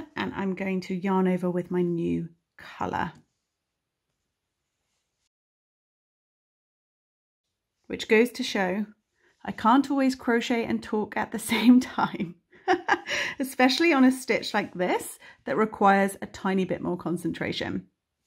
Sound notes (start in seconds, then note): 12.7 chuckles